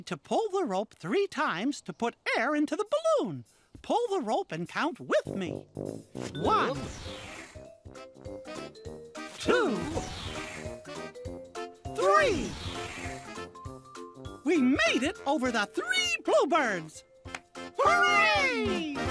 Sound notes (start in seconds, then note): 9.8 whoosh; 12.4 whoosh; 18.8 clap